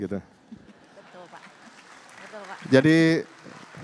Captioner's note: non-english speech; applause